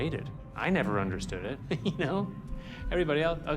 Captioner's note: chuckles